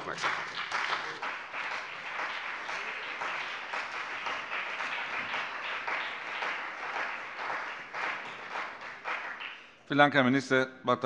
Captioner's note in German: Beifall CDU und BÜNDNIS 90/DIE GRÜNEN